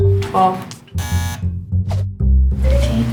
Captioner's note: buzzer sound